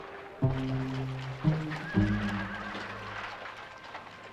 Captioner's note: horse whinnying